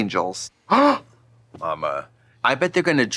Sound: gasping

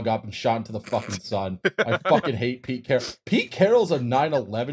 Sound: laughter

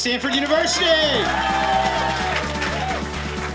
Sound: applause

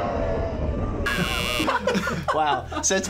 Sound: buzzer

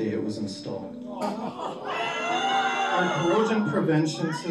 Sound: crowd gasping and booing

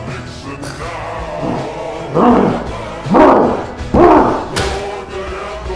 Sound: Nixon sounds

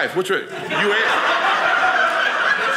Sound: audience laughing

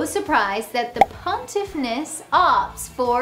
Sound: graphics pop

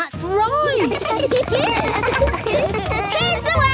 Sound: laughter

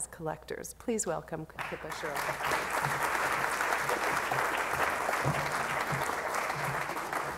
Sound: applause

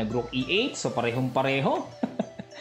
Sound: laughing

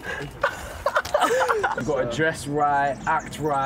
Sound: laughter

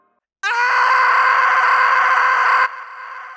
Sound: screaming

